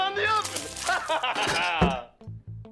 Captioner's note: laughs